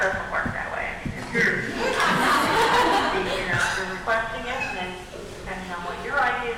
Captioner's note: audience laughing